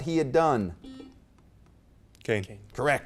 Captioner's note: beep